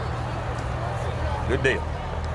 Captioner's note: revving and chattering continue